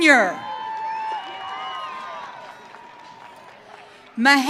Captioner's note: audience cheering